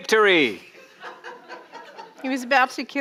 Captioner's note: audience laughing